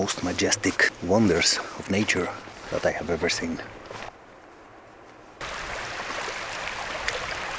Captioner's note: wind